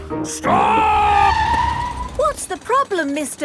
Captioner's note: tires screeching